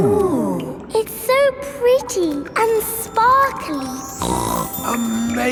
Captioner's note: snorts